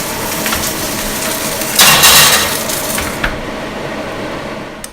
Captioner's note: salmon sizzling sound